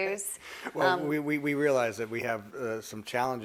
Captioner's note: laughs